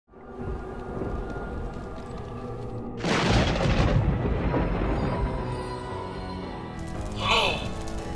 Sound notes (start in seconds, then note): 0.0 suspenseful music playing; 2.9 lightning cracks; 7.0 warped speech